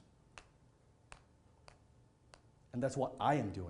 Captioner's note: pen tapping